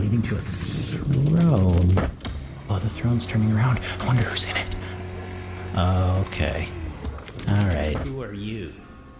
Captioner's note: throne rotates